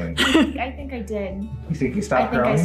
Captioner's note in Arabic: يضحك